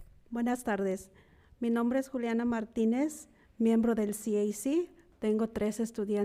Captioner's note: speaking in foreign language